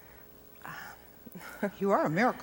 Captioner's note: chuckles